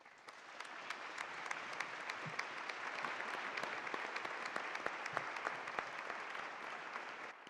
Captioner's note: applause